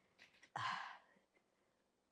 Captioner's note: sighing